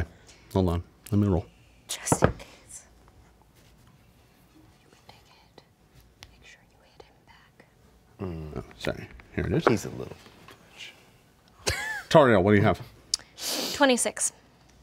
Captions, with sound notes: - Hold on, let me roll. - Just in case. - You can take a hit, make sure you hit him back. - Sorry. - He's a little (murmurs). - Tariel, what do you have? - 26.